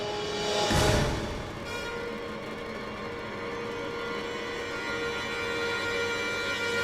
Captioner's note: dramatic music; rocket propelling